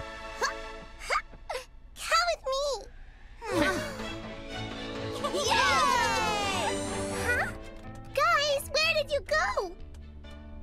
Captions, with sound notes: - Come with me! (gasping) (all cheering) - Huh? Guys, where did you go?